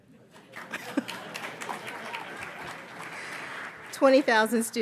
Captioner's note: audience applauds